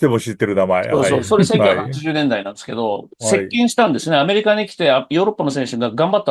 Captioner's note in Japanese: 笑い